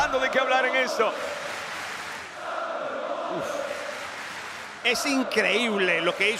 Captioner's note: applause